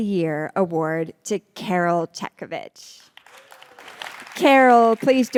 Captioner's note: audience applauds